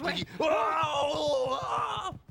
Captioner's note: squeals